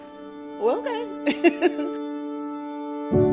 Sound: laughs; melancholy orchestral music

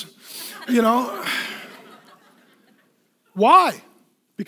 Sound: laughing

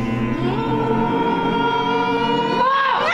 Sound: everybody hums in a higher pitch

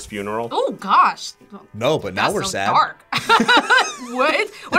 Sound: laughs

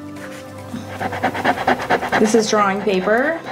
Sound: eraser rubbing

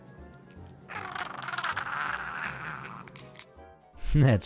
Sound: cat gargling

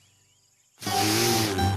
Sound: giggle

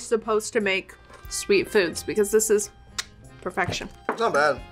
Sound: smacks lips

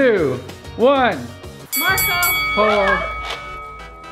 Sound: bell chimes

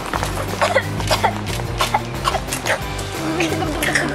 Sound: coughing

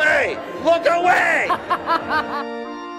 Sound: laughs

